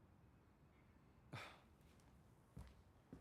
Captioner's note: sighs